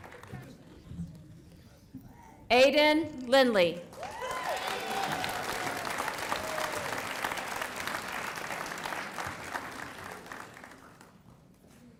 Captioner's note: applause